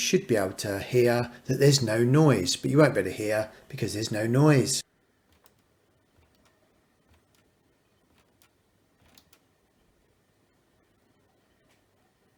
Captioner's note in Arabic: الصمت